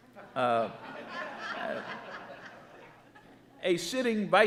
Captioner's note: audience laughing